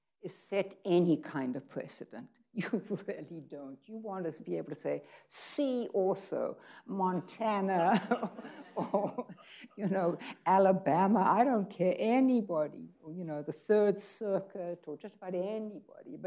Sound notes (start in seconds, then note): 7.8 people laughing